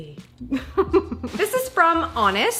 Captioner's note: laughs